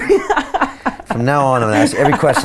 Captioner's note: laughing